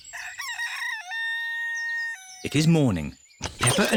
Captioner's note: rooster crows